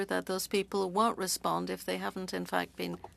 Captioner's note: speaking French